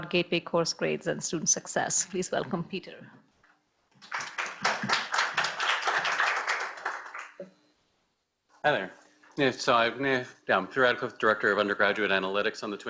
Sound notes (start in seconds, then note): 4.0 audience applauds